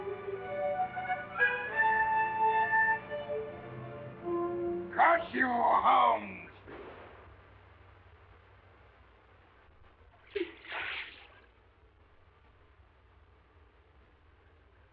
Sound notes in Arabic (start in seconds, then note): 0.0 موسيقى مشوقة; 6.6 إطلاق نار متفجر; 10.3 رش الماء